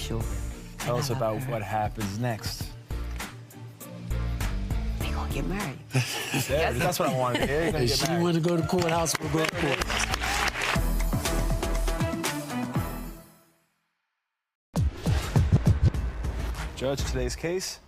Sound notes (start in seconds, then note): 11.3 audience applauding; 14.9 upbeat music